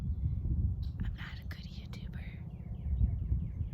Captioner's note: whispering